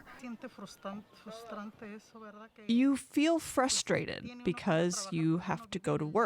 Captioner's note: through translator